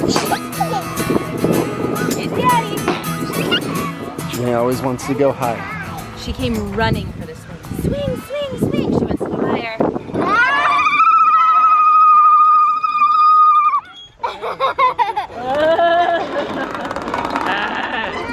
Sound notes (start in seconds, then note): 0.0 giggles; 3.1 blows raspberry; 3.3 giggles; 10.2 vibrating scream; 14.2 laughs